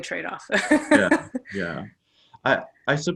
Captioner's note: laughs